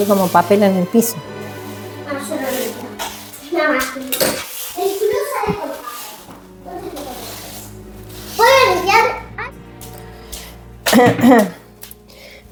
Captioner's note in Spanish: carraspeo